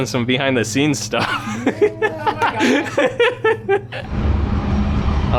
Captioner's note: laughing